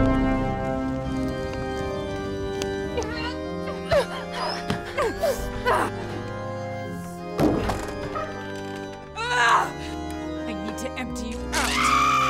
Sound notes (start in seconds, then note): 3.5 dramatic organ music; 3.5 shouting; 9.5 grunting and groaning